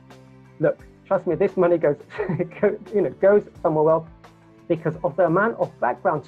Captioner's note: laughs